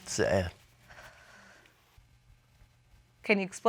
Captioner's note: sighs